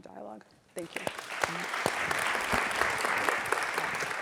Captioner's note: audience claps